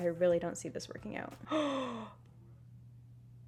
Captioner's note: gasps